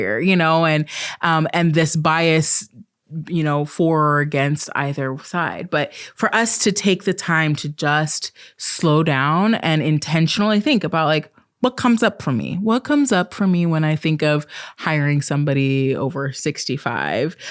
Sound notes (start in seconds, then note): none